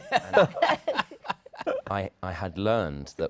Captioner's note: laughter